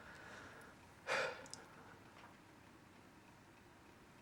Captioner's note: Mack sighs